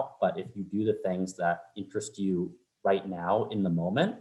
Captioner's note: none